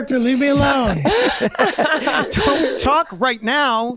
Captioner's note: laughing